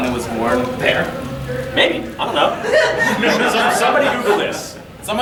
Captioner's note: audience laughing